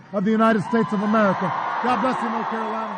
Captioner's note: applause